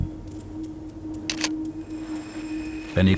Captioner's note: camera clicks